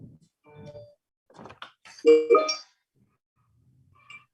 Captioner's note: computer chimes